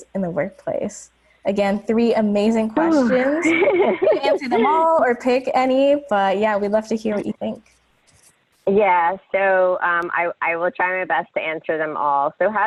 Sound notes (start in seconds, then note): 2.8 laughing